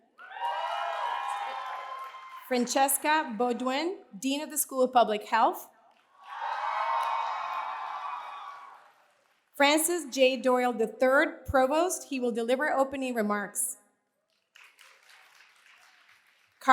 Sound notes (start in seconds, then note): 0.0 cheers and applause; 6.0 cheers and applause; 14.3 applause